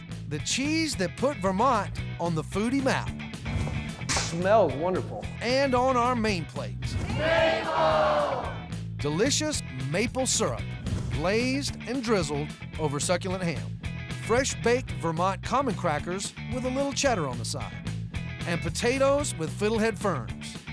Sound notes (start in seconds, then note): 6.9 everybody shouting